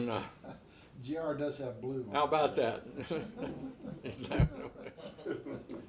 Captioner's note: laughs